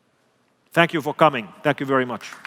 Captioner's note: applause